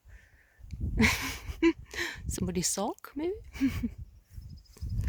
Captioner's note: laughs